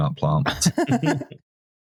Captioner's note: laughter